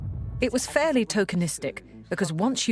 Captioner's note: voiceover